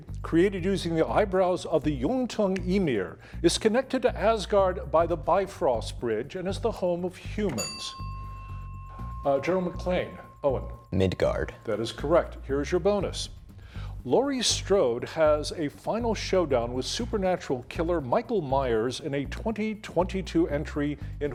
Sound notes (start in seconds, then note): 7.5 bell ringing